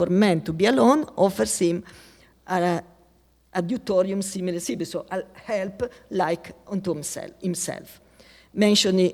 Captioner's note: speaking latin